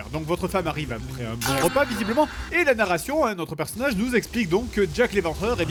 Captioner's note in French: Bruits sensuels